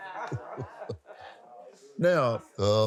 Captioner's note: laughs